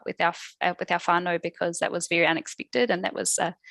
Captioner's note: non-english speech